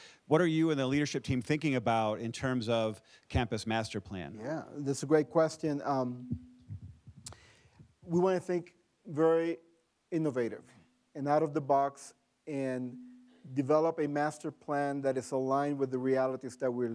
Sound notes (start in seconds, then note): none